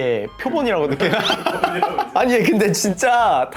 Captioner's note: laughing